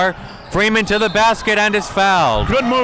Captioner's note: whistle blows